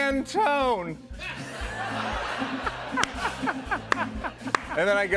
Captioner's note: laughter